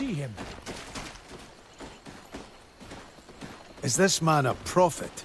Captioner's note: footsteps rustling